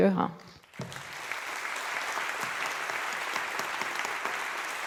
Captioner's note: all applauding